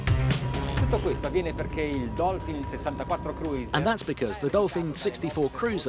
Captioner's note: thumping music; speaking Italian